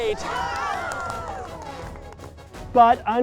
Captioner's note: campers cheering